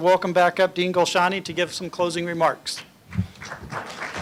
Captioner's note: applause